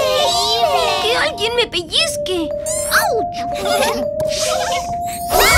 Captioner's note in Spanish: Risas